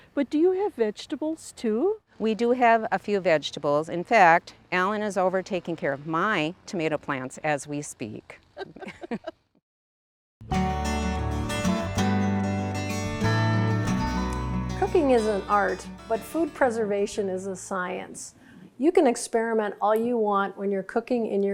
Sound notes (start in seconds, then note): 8.5 both laughing; 10.4 peaceful music